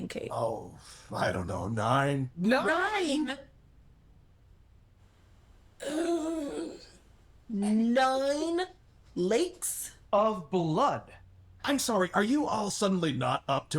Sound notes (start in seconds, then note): 5.8 audible disbelief